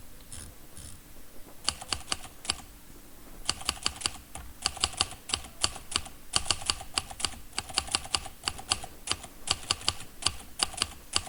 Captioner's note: sound of an old typewriter